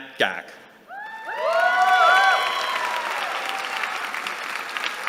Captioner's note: cheering